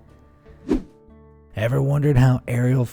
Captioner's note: air whooshing